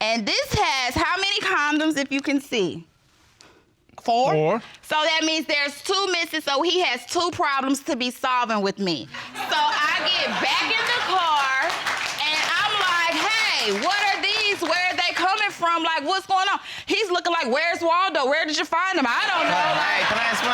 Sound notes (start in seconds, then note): 9.3 all laughing